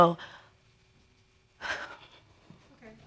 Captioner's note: crying softly